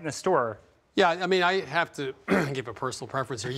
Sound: clears throat

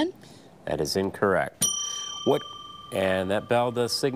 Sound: bell dings

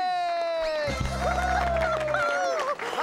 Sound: applause

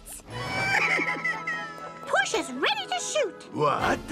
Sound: sobbing

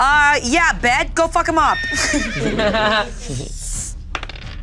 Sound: horse neighs

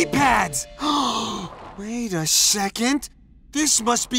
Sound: gasps

